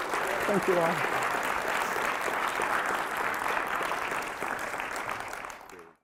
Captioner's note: applause